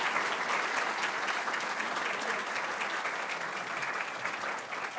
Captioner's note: audience applauding